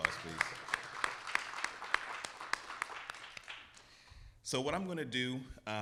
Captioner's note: audience cheering; audience applauding; clapping